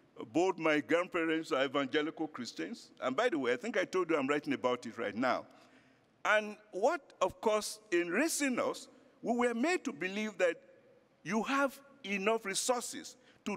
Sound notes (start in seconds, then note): none